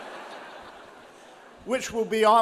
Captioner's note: audience chuckling